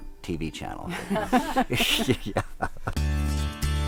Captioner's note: laughter